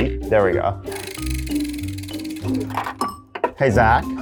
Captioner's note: wheel rattling